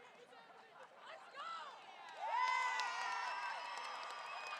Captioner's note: crowd cheering